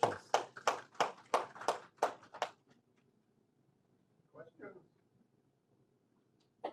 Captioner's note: applause